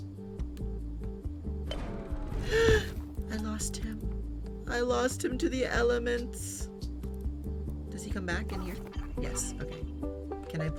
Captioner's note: gasps